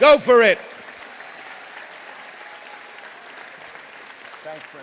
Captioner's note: applause